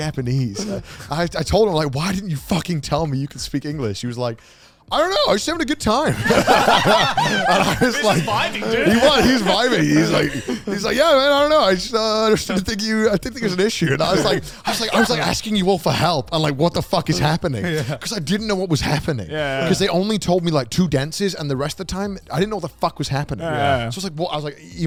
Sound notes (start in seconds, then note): 10.7 men laugh; 17.0 men laugh